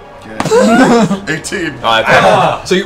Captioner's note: laughter